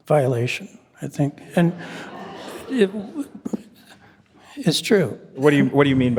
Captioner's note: attendees laughing